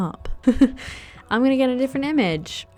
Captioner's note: laughs